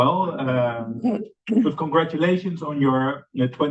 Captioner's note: laughter